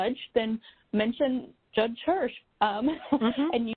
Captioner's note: chuckles